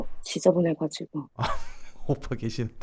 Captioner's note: laughing